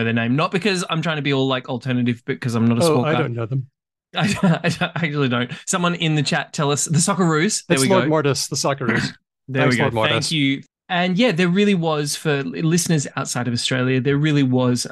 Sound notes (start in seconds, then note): 5.1 laughs